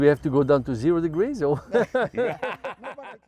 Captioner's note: laughing